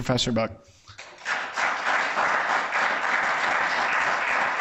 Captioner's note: audience applauds